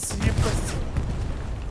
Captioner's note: gunshots